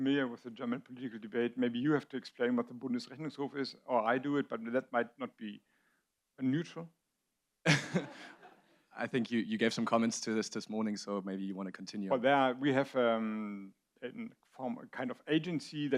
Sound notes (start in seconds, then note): 7.7 audience laughs